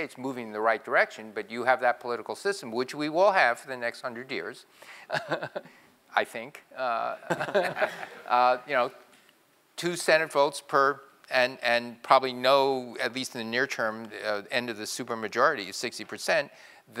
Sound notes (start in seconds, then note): 7.2 laugh